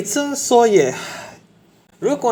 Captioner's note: sigh